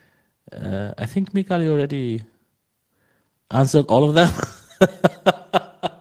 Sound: laughing

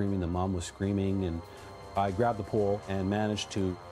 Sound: siren wailing

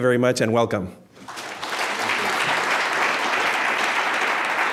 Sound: audience applauding

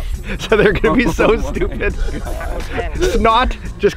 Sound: laughing

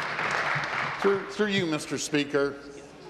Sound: applause

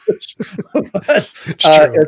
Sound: laughing

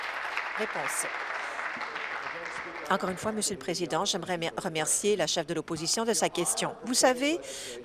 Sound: applause

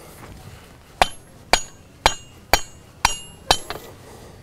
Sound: hammer falling

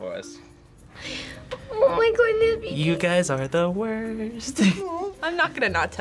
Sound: sing-song

